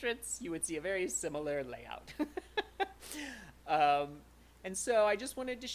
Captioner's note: laughter